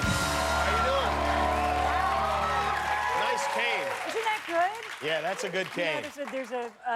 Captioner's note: cheers and applause